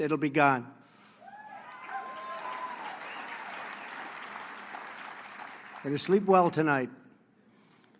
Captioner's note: applause